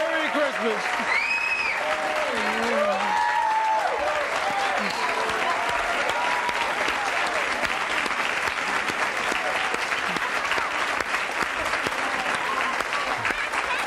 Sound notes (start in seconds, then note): 2.0 audience applauding